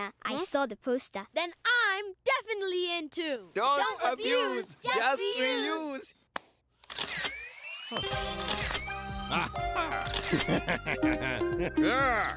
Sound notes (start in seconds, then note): 6.8 camera flash whirring; 8.3 shutter clicking; 9.2 evil chuckle